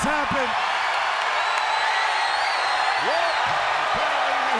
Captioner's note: crowd cheering